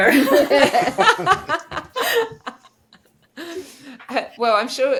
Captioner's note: panellists laughing